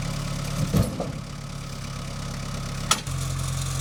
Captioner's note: engine rumbling; log crashing; engine rumbling